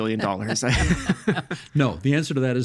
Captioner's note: laughing